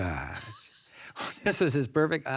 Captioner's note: laughs